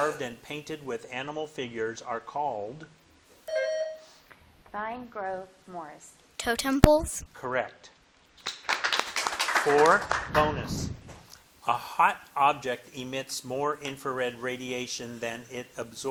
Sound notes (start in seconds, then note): 3.5 bell dinging; 8.4 audience clapping